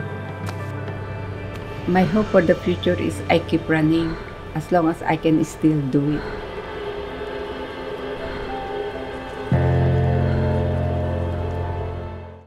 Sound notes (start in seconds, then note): 0.1 footsteps; 6.2 breathing, waves lapping